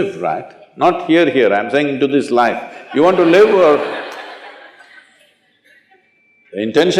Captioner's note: laughter